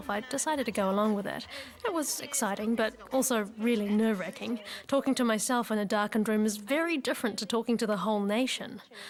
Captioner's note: none